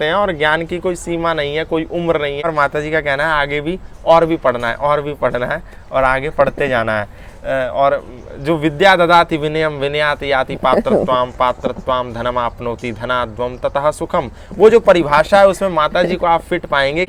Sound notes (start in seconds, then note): 8.6 talks in sanskriti